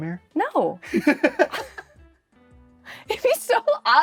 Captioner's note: both laugh